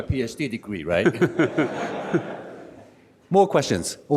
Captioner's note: audience laughs